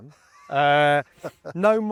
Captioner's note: laughs